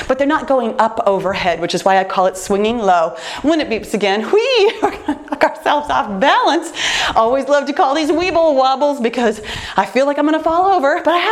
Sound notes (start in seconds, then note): 4.6 laughs